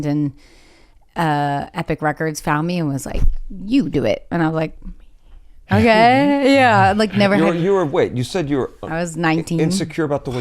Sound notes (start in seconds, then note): 5.7 chuckles